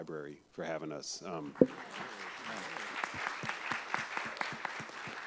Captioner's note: applause